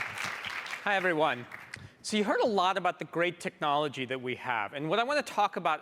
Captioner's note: applause